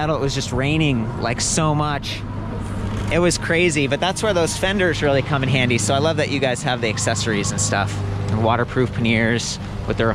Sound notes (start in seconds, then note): none